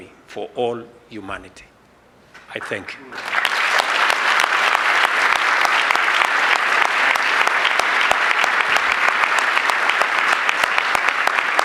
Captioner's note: applause